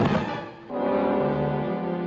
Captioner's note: thudding